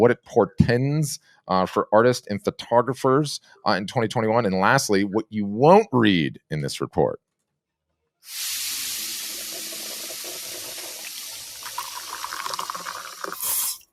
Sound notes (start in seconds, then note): 9.3 water burbling